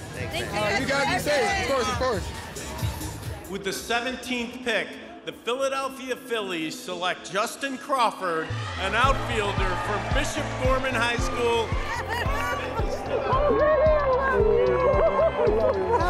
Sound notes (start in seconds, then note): 12.1 audience cheering